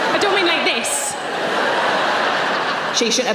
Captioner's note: audience laughing